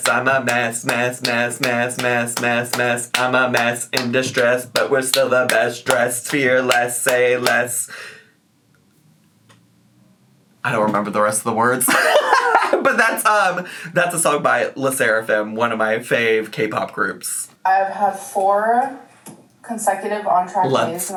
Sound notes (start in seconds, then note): 11.9 laughs